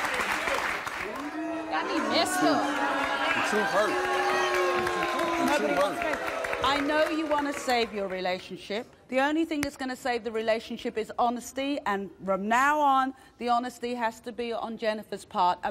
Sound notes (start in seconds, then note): 1.1 audience booing